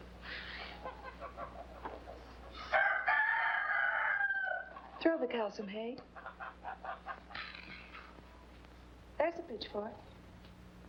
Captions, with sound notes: (rooster crows) Throw the cows some hay? There's a pitch fork.